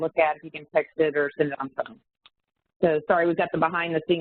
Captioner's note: audio warps